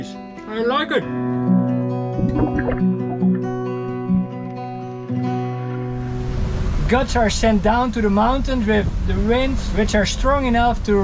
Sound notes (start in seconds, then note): 0.4 soft music; 2.1 water bubbles